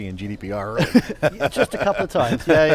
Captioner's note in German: lacht